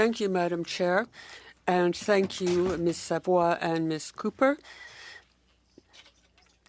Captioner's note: speaking French